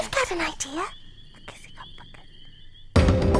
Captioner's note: whispering; upbeat tribal music